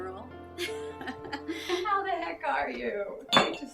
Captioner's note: laughing